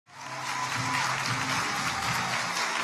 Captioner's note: audience applauding; upbeat music